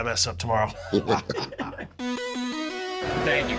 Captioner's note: both laugh